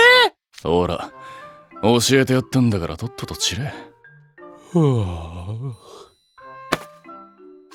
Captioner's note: yawns